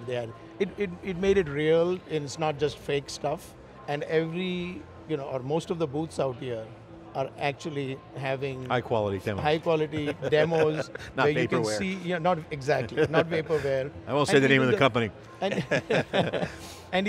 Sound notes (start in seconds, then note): 10.0 laughs; 15.5 all laugh